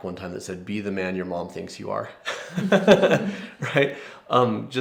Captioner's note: laughs